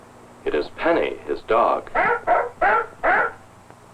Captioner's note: barking